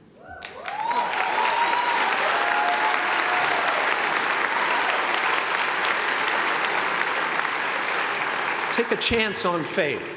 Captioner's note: applause